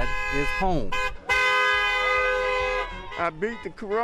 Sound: horn honking

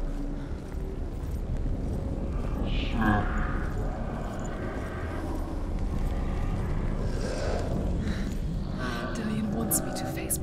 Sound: distorted, menacing growling and rumbling

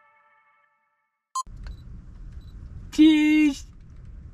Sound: camera clicking

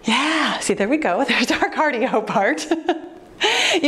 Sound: laughs

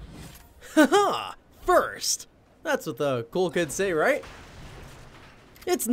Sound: chuckles

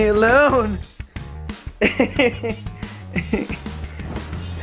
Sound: laughing

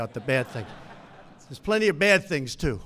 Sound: laughter

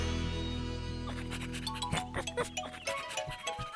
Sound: sniffing & Barking

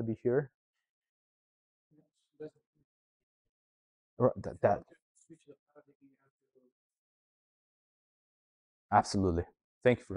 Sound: silence

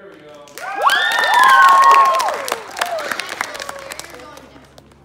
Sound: cheering

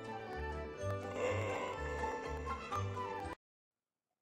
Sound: horror Siezure noises

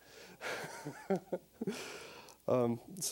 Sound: laughing

